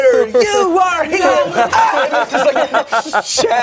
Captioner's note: yells